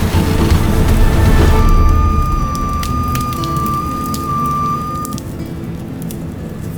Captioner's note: dramatic action music continues; tow truck beeping; branches snapping